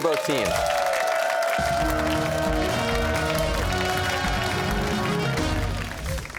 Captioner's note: cheers and applause